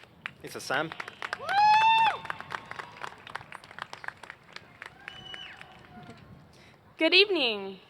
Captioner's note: applause